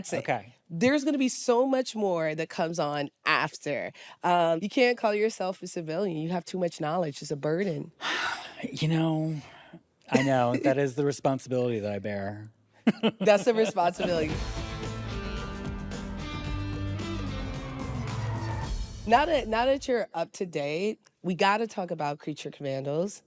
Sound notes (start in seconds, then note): 8.0 sighs; 12.8 chuckles